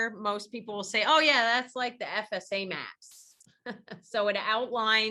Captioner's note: chuckles